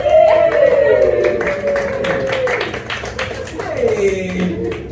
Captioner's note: audience applauds and cheers